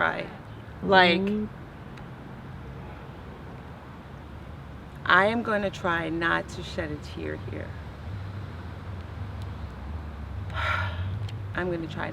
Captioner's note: sighs